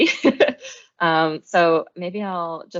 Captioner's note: chuckles